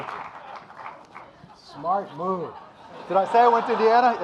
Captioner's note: audience laughing